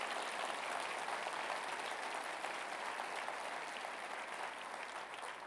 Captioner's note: applause